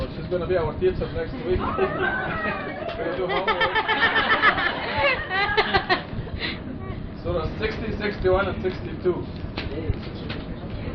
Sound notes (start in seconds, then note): 4.1 laughter